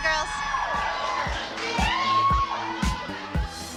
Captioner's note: cheering